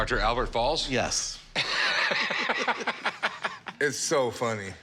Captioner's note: both laugh